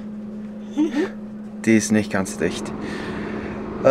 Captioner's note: laughs